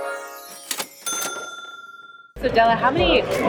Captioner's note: ding